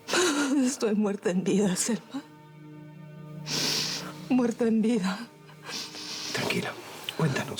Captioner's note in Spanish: sollozos